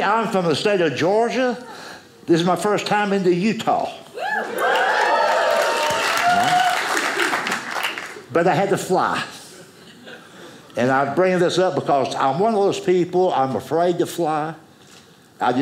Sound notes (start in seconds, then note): 4.2 audience cheers